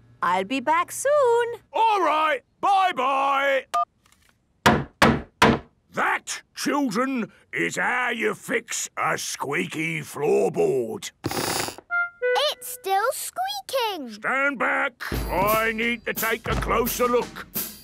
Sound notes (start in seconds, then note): 4.6 hammering; 11.2 squeaks